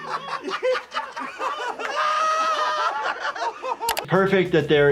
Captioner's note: Jackass crew laughing